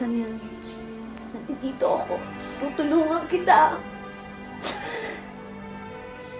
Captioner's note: sniffles